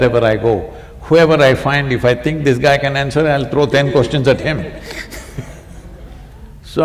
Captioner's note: laughter